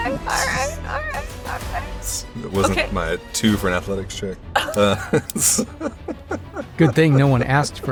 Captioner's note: chuckles